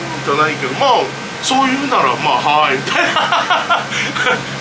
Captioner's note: laughs